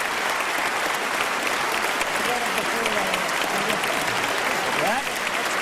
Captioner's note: applause